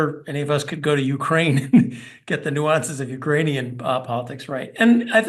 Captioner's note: laugh